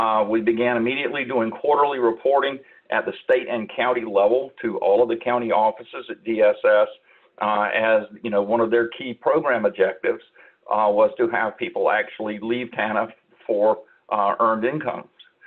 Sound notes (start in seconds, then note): none